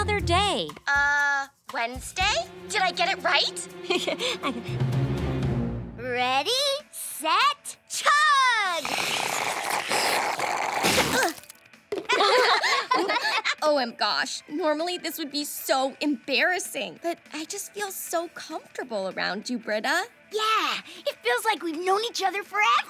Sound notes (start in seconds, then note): 3.8 chuckles; 8.7 slurping; 12.1 laughing